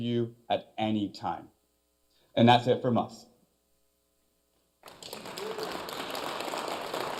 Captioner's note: applause